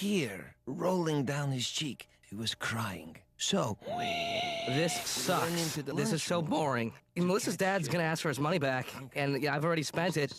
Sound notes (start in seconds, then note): 4.4 wheezes